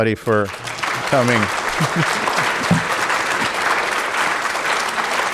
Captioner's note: audience applauding